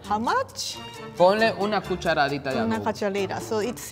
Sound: speaking in foreign language

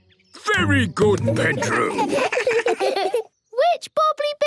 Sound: children giggle

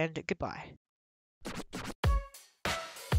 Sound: record scratches; upbeat music playing

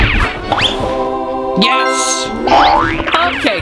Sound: angels singing; dinging

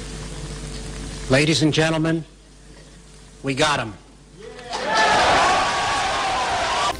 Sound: crowd applauds

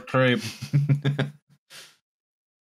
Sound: chuckles

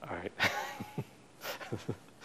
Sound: laughs

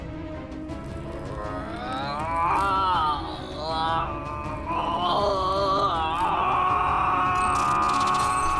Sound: crying with pain

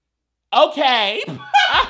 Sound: laughs

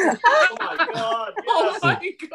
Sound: laughter

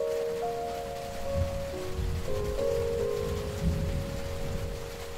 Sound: soft rain with thunder

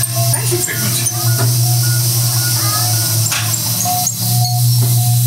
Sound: beeping noise

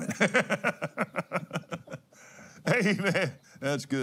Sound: laughs

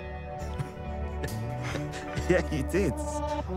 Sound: laughing

